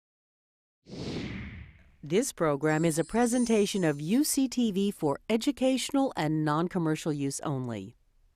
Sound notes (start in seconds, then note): 1.2 letters whoosh